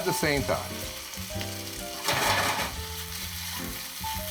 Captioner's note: oil sizzling